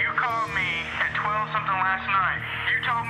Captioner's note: on phone